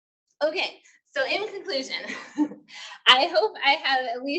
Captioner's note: laughs